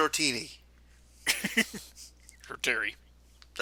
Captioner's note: chuckles